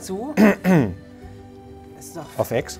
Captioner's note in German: Räuspern